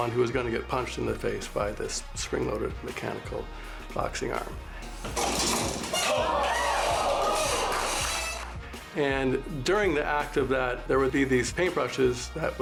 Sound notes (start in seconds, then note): 5.5 boxing glove thuds; 6.1 audience clapping